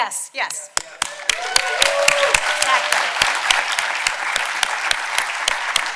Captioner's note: audience applauding